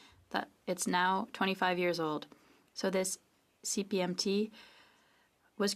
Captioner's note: speaking French